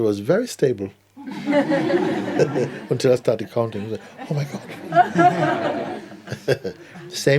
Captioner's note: laughter